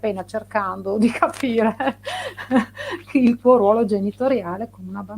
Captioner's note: laughs